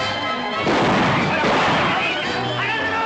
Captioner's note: gunshots